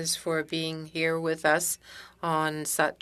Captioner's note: speaking French